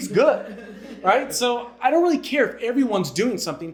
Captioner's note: audience laughing